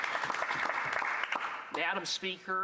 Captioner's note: some Applause